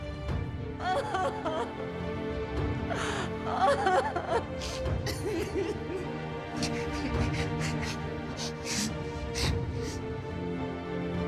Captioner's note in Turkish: Ağlıyorlar